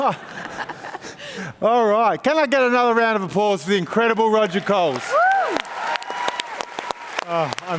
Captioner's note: applause